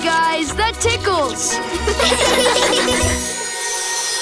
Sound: laughing

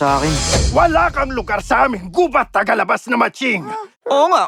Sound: gasps

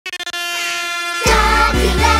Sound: horn blowing

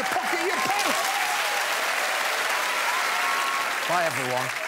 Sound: crowd applauds and cheers

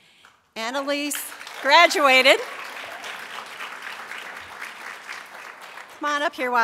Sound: applause

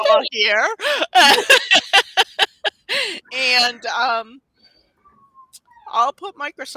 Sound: laughs

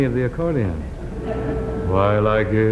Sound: audience laughing

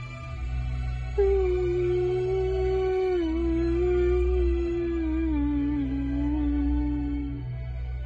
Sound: hums

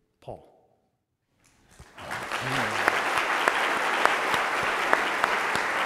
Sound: audience applauds

